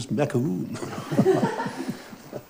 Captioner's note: laughter